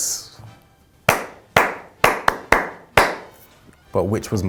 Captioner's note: clapping